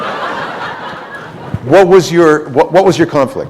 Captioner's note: laughter